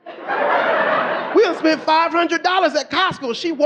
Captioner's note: audience laughing